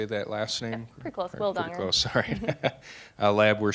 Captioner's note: chuckling